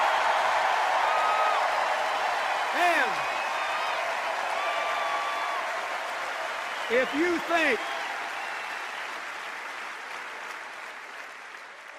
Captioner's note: cheers and applause